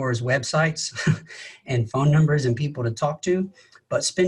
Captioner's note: laughs